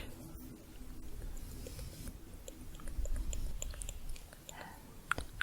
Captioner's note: tongue clicking, stroking bristles